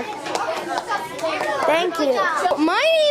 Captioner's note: students chattering